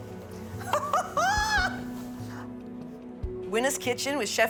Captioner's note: guffaws